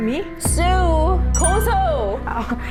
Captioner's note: frustrated sound effect